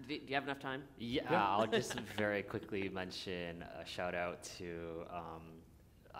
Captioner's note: chuckle